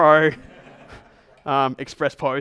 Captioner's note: everyone laughs